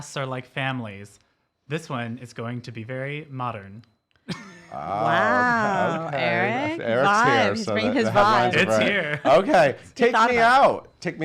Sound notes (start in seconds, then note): 4.3 laughing